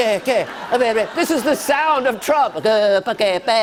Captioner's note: speaking gibberish; normal voice; speaking gibberish